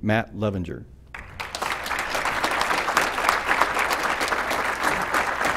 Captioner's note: applause